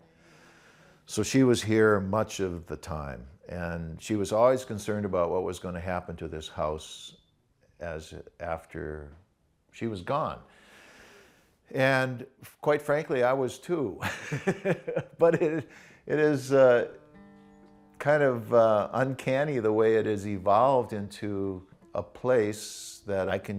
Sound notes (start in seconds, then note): 14.0 laughs